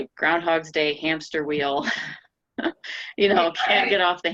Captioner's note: laughing